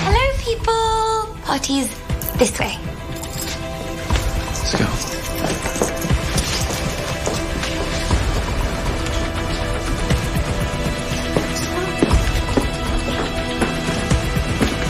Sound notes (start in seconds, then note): none